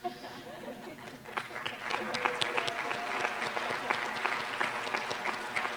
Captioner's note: applause